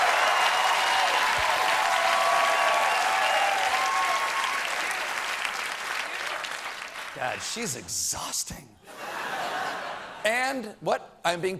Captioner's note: cheers and applause